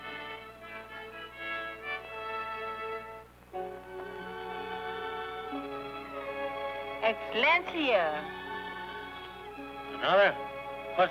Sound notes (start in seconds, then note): 3.5 somber string music; 7.1 mother speaking foreign language